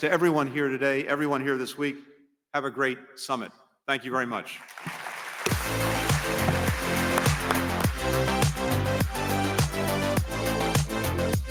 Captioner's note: applause